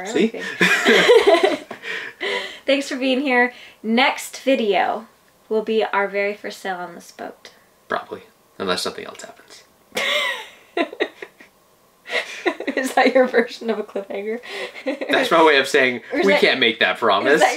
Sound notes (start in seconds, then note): 0.1 laughing; 12.1 laughing